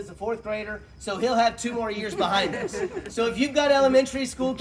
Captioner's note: laughter